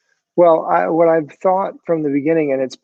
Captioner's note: none